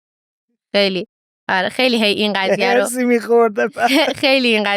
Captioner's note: laughs